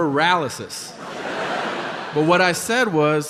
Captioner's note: audience laughing